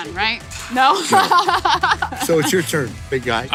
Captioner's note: lauging